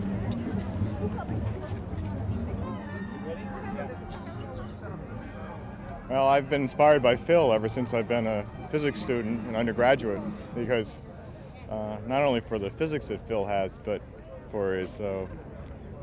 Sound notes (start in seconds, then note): 0.8 indistinct chatter